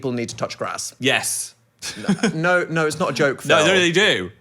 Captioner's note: laughs